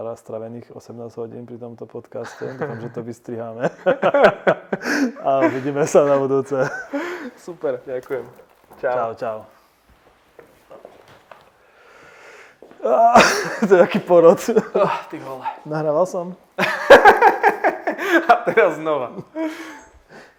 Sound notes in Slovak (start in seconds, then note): 3.6 Smiech